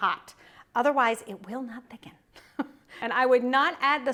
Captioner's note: chuckles